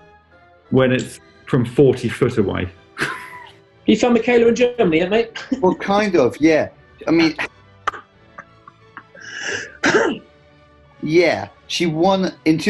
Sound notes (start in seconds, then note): 3.0 chuckles; 8.3 laughs and clears throat